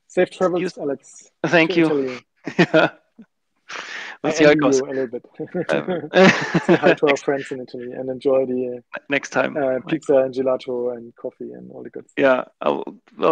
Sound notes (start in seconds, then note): 1.7 laughs; 5.3 both laughing